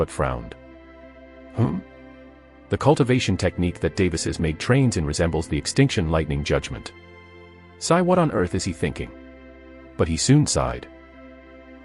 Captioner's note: sigh